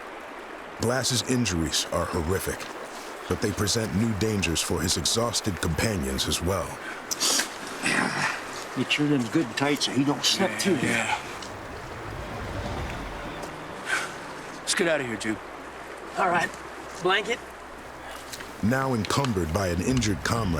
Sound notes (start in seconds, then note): 0.2 water streaming nearby; 7.8 men grunting